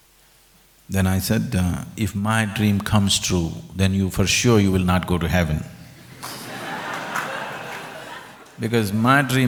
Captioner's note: laughter